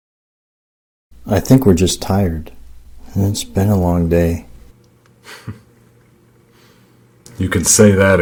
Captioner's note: chuckle